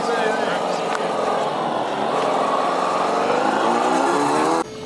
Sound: motor revving

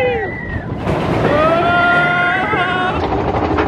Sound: wind rushing

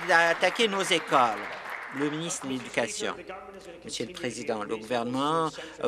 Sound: some Applause

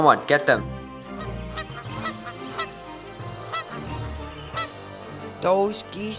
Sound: Geese

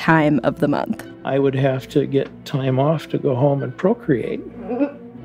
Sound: laughs

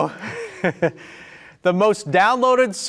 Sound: laughing

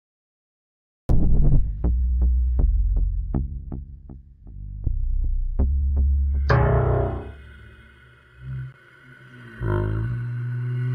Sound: scary sound

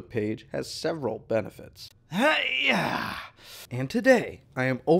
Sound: exhales sharply

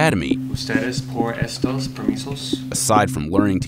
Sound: speaking Spanish

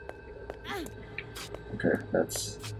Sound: Anne grunts

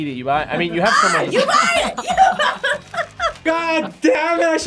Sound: laughs

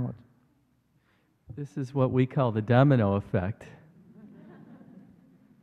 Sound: laughter

